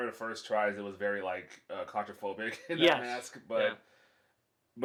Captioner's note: laughs